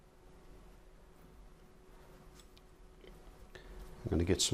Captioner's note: silence